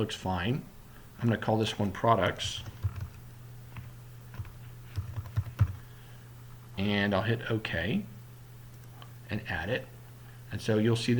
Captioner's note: typing